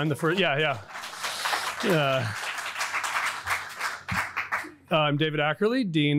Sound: audience applauding

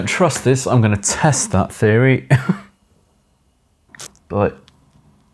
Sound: laughs

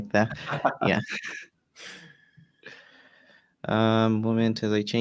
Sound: all laugh

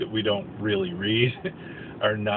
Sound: chuckle

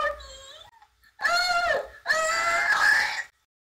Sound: screams

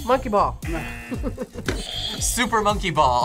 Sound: buzzer rings; buzzer; laughs

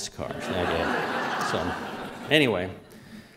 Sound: laughter

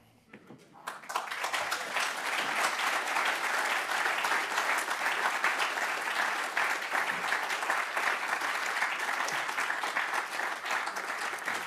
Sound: applause

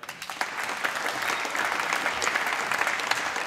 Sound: applause

